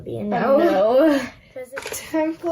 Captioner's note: chuckles